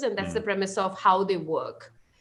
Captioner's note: chuckles